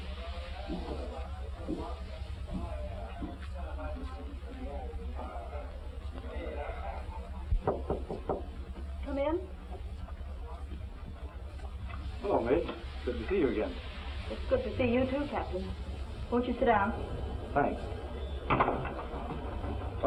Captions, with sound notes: [knocking] Come in. Hello, Midge. Good to see you again. It's good to see you too, Captain. Won't you sit down? Thanks.